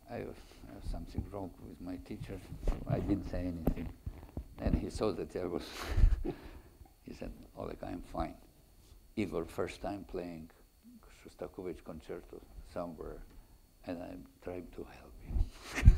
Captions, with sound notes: I have something wrong with my teacher. I didn't say anything. And he saw that I was... (chuckles) He said, Oleh, I am fine. Even first time playing Shostakovich concerto somewhere and I'm trying to help you (laughs).